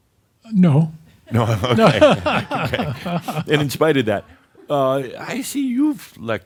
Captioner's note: they chuckle